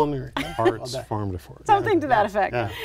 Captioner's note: laughing